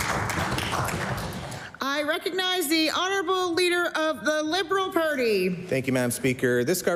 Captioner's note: applause